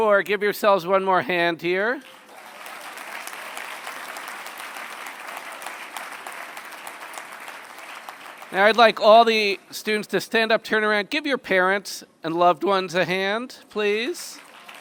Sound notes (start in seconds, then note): 1.8 applause